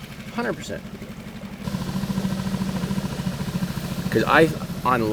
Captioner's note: boat motor revving